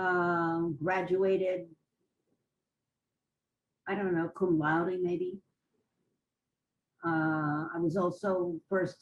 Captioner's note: pauses for 3 seconds